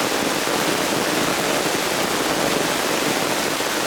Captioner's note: rain